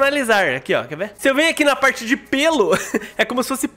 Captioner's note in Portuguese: risos